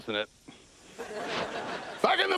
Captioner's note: laughter